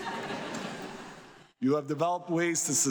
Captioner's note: audience laughs